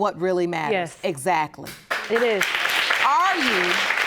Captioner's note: audience applauding